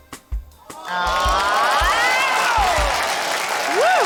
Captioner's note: cheering, applause